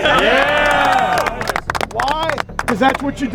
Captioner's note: cheering